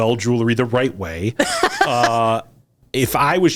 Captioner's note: laughs